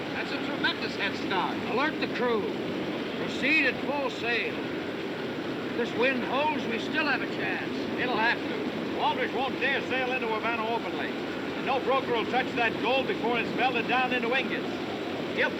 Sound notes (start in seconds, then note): none